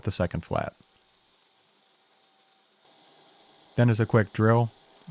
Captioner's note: machines whirring